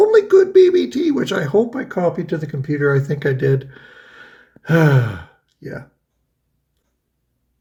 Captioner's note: sighs